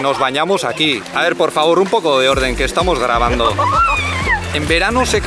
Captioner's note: edit: It sounds like a children's hubbub